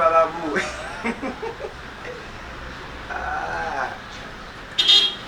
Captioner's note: laughs